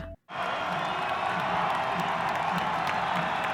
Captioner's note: crowd cheering